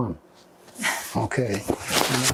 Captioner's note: laughing